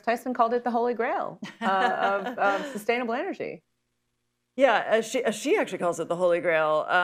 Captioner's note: laughs